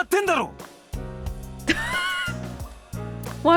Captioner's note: scoffs